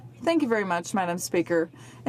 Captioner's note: speaking French